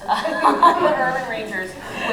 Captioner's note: laughter